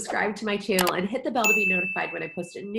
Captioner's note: bell dings